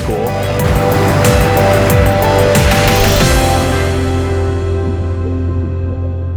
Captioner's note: waves roaring; upbeat music; water burbling